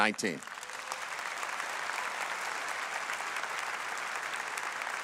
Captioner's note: audience applauds